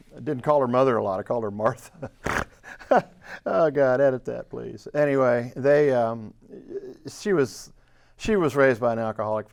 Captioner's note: laughs